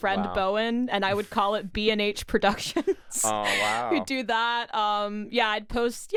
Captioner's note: laughs